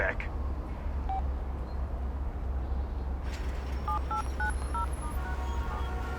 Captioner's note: phone buttons beeping